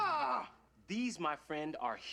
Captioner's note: yells